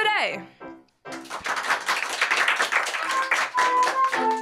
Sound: applause

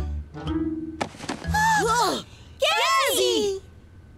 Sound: gasp

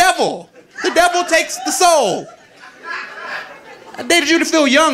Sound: audience laughing

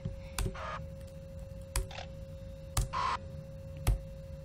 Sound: some furious clicking?

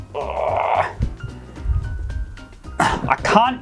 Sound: grunting

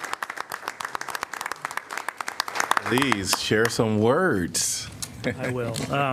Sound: applause

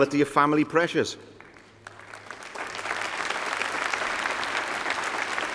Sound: applause

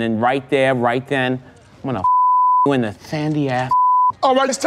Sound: beep

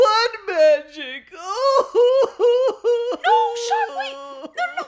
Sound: crying

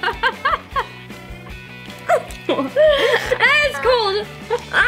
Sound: giggles

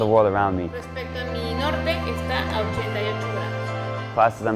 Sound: professor speaking Spanish

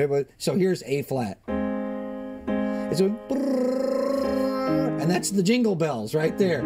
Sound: vocalizes B-r-r-r-r vibration

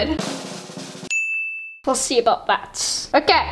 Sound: drum roll; bell chime

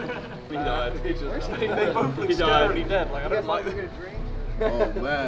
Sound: group murmuring

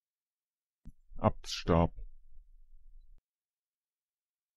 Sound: fast Pronunciation

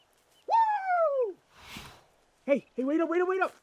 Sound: man cheering

